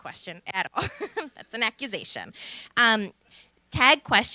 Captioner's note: laughter